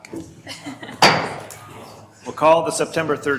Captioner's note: gavel strikes